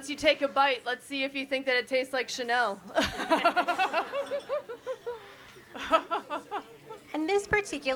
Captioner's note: all laugh